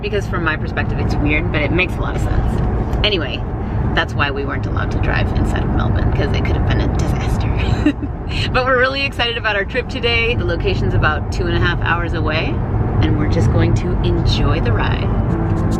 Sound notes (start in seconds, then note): 7.7 laughing